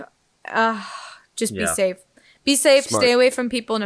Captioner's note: sighs